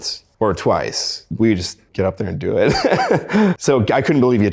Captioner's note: laughs